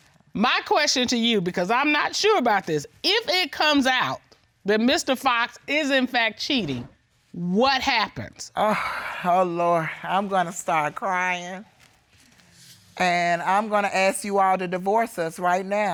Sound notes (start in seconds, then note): 8.3 sighs